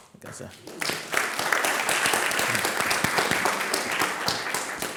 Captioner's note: audience applauds